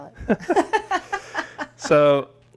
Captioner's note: both chuckle